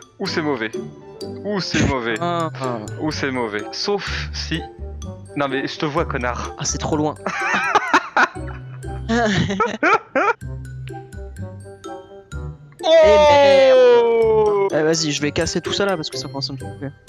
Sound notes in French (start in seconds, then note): 7.2 rires